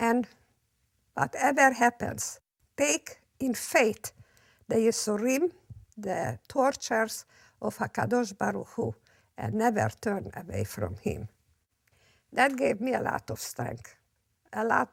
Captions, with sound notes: And whatever happens, take in faith (speaks in foreign language) of HaKadosh Baruch Hu, and never turn away from Him. That gave me a lot of strength.